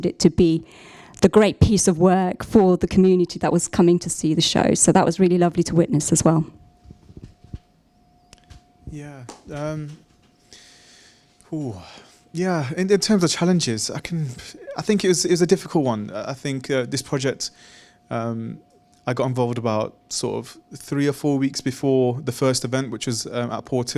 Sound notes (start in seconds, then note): 10.4 exhales